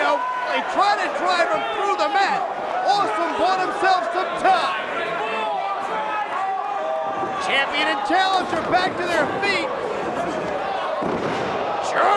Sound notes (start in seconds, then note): 5.3 crowd yelling; 11.0 bodies slamming